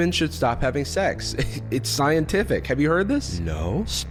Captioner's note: chuckles